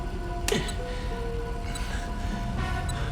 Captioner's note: grunts with effort